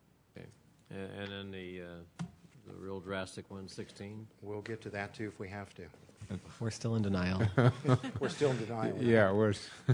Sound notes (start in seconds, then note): 7.4 laughter